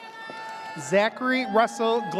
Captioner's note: audience cheers